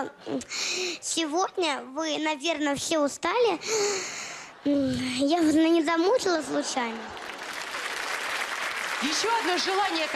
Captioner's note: laugh, applause